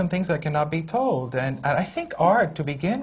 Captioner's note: none